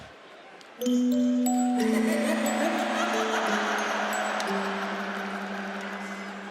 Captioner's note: mysterious music; Liv chuckles